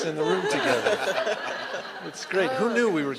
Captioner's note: laughter